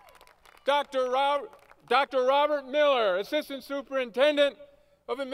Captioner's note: applause